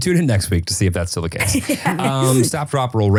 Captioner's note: laughing